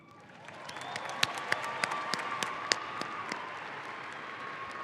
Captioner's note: audience applauding